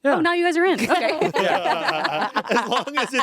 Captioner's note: everyone laughs